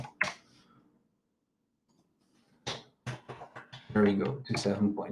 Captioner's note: keyboard clicks